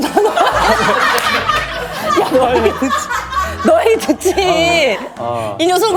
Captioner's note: hahaha